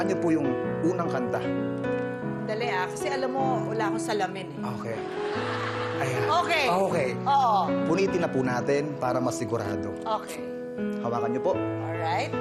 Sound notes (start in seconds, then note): 5.1 laughter